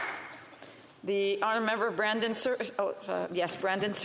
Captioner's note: applause